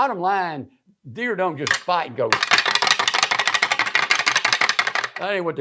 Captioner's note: fast rattling